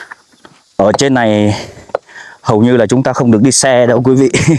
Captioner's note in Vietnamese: khịt mũi